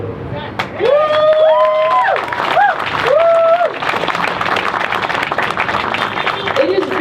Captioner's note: crowd cheers